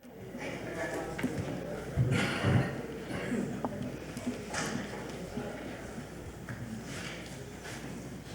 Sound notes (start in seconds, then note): 0.0 group chatters distantly